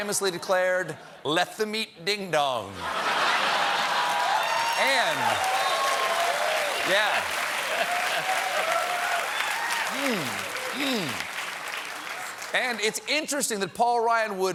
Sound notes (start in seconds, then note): 2.7 laughter; 3.9 applause